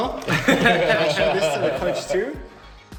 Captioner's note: laughing